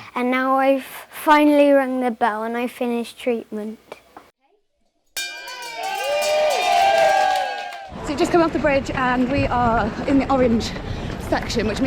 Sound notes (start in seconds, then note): 5.1 bell rings; 5.2 crowd cheers